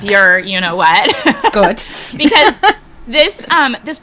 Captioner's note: person laughing